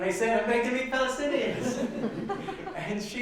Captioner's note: laughs